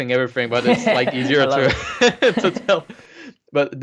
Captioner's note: laughter drown speech